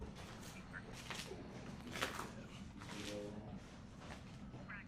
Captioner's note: cop radio chattering